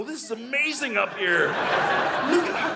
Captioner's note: audience laughing